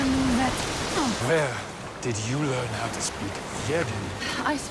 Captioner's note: in English